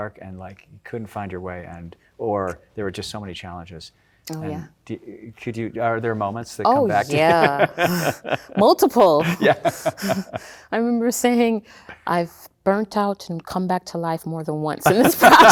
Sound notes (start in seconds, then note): 6.7 laughing